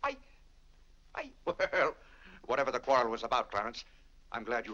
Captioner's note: stammering; laughs